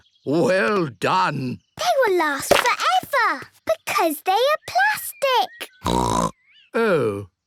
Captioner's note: snorting